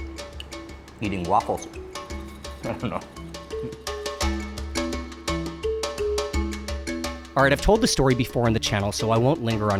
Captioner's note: laughs